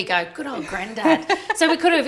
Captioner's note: laughing